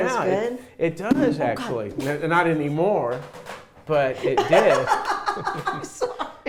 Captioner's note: laughing